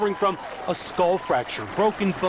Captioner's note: applause